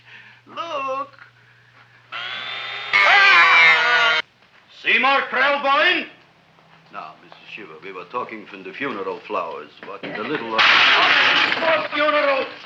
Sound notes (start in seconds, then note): 2.1 drill whirring; 3.0 man groaning; 10.6 pot clanging